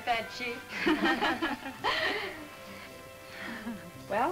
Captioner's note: women laugh